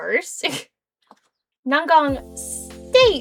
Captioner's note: giggling